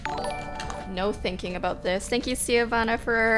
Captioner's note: notification tingling